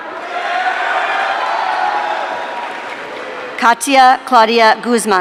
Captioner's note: audience cheering